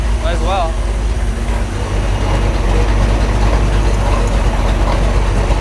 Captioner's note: engine rumbling